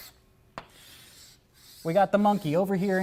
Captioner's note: chalk scratching